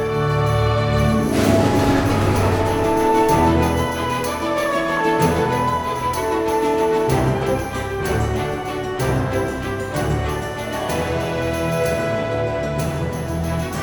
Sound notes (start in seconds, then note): 6.6 train rattles; 10.2 upbeat music continues